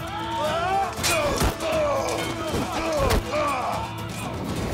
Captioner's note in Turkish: Darp sesleri; Kılıç sesleri